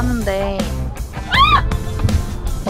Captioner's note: screaming